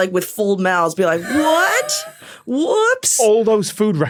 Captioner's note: wheezes